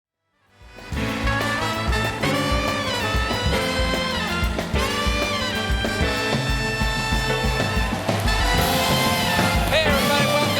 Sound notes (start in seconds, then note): 0.7 cheers and applause